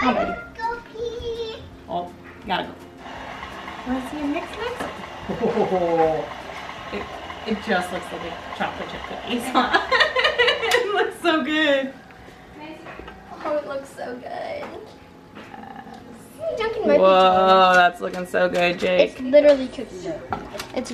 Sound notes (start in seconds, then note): 9.5 laughing